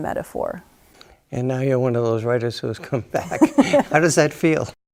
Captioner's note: both chuckle